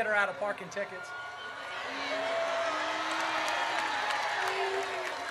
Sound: audience cheers

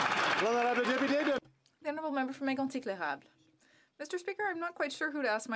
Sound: some Applause

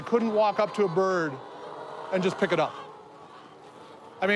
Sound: laughs

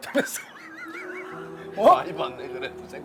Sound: laughter

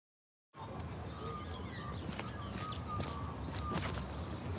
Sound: birds tweeting

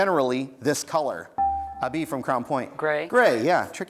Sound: buzzer beeps

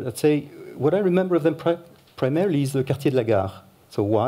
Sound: french

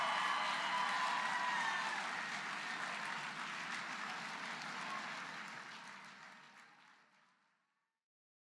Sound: applause

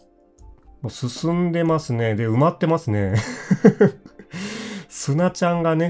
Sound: laughs

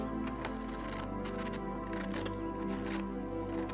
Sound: scissors slicing paper

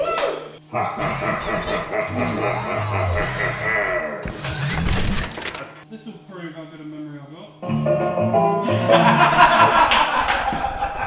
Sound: evil laughter; everyone laughs

